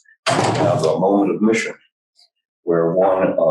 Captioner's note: loud slam